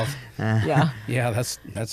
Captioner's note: chuckles